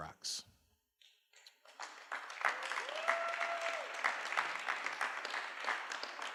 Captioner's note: applause